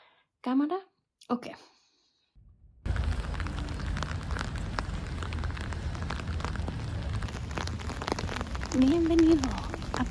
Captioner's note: rain